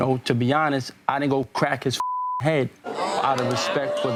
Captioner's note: beep